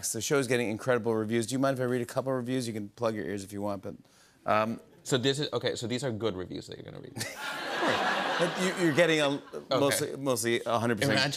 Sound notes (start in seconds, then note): 7.2 laughter